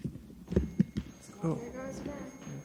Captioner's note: sustained ringing tone begins